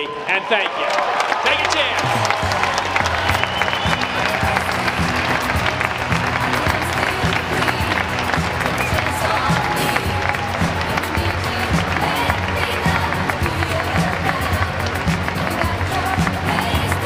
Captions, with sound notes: And thank you. Take care. (audience clapping) (upbeat music)